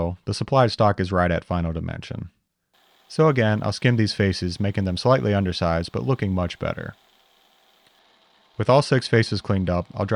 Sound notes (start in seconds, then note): 7.6 mill whirring